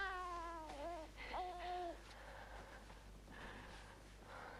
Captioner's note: baby cooing